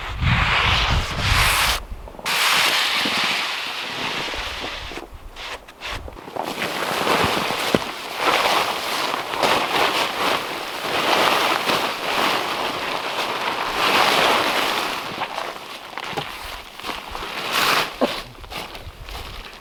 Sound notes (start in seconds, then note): 7.1 tarp rustling